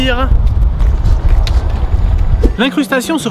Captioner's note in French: Bruit de vent qui sature continue